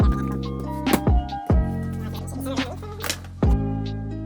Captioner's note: floor slamming; calm, jazzy music